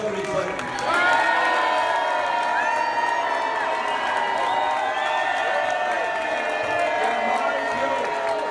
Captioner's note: cheers and boos